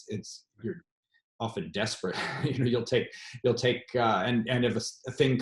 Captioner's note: laughs